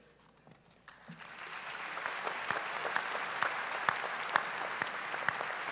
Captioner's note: applause